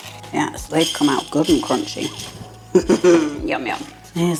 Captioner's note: rustle